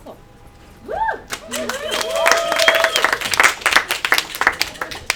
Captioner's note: attendees cheer and applaud